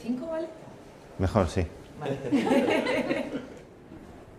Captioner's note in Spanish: todos ríen